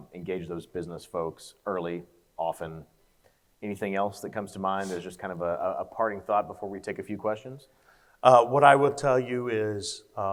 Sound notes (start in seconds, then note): none